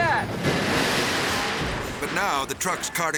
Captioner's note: shed crashing